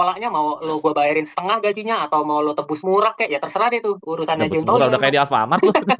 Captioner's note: laughs